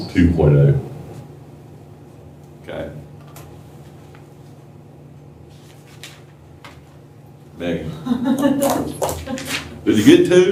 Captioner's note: laughter